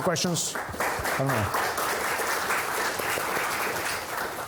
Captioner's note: applause